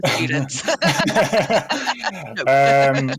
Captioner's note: chuckling